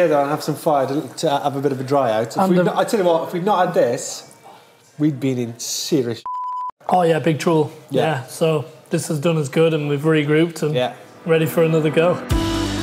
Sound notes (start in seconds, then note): 6.2 beep; 12.6 calm music